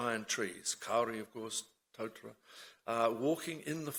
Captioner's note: speaks in foreign language